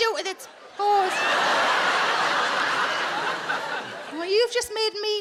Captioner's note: audience laughing